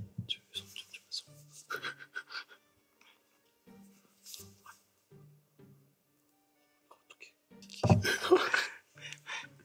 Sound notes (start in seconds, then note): 1.7 laughing